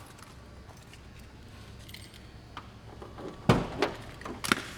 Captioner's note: keys jingling